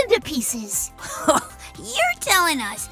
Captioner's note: Tails laughs incredulously